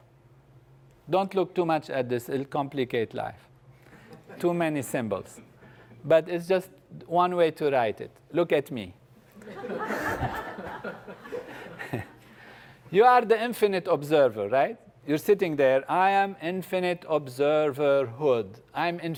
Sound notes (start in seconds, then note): 3.9 laugh; 9.4 laugh